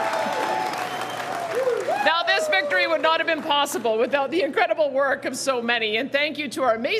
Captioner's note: cheering